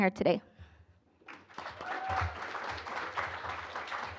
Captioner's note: applause